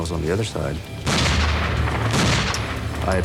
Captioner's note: gunshots